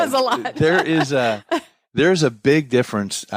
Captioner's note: laughs